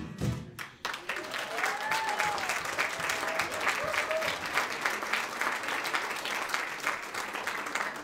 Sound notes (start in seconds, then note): 0.5 audience applauds; 0.9 audience cheers